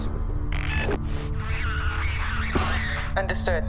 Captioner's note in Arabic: طقطقة جهاز لاسلكي